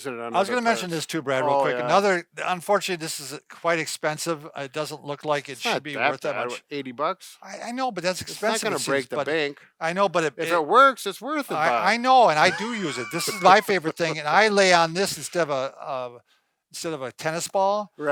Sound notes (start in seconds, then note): 12.3 laughs